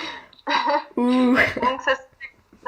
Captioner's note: laughs